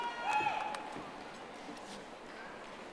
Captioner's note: audience applauding